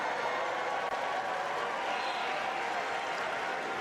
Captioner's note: cheers and applause